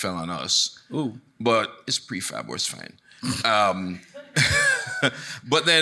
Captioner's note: chuckles